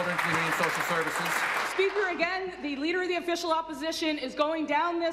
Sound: applause

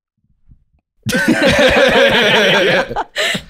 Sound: all laughing

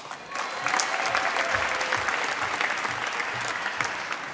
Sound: applause

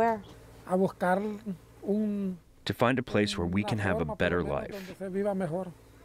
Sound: through translator

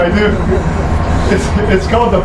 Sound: laughs

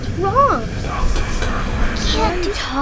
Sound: deep Whisper

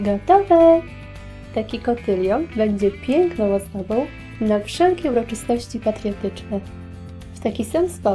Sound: Polish

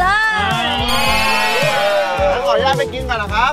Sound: cheering

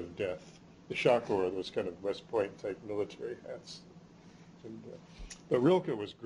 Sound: non-english

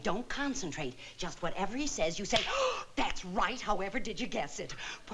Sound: gasps

